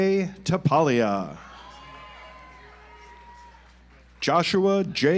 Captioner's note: audience applauds